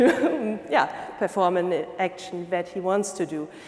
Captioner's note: laughing